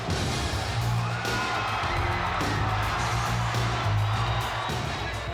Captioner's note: crowd cheers